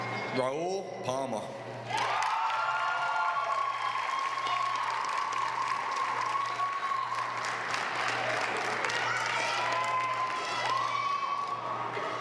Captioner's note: applause